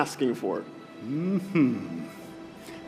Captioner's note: mmmhhhhm